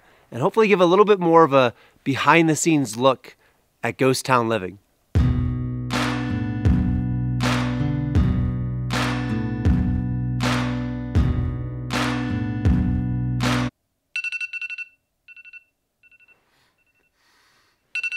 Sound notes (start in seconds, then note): 5.2 dramatic upbeat instrumental music; 14.1 cellphone alarm beeping